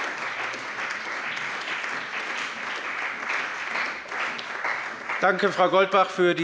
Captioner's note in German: Beifall bei dem BÜNDNIS 90/DIE GRÜNEN und der CDU